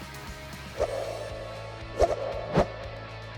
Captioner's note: swiping sound